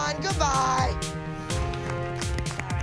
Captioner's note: soft applause